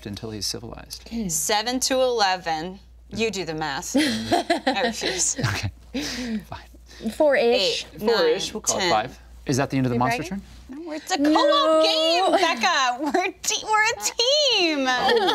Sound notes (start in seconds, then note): 4.0 group laughing; 4.0 laughing